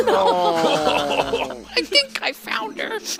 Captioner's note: laughing